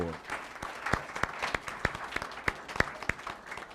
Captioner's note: applause